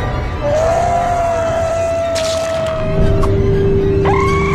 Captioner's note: ominous music; gasps; metal slices flesh; screams